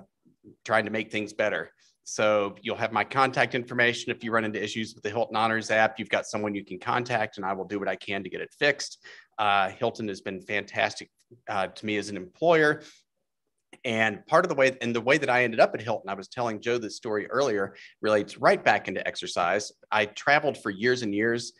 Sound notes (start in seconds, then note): none